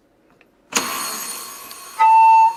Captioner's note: oven alarm goes off; recorder noise